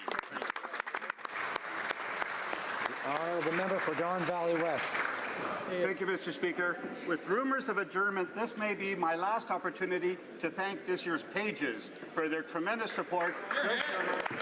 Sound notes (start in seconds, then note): 5.7 applause